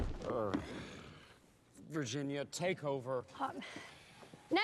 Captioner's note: sighs